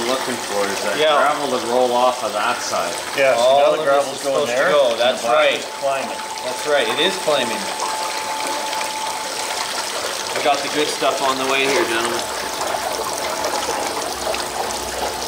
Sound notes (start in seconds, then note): 9.1 water running